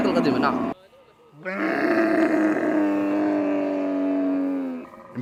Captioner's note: camel bleating